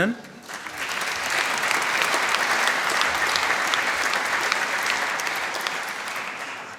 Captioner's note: applause